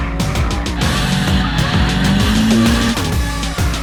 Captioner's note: engine hums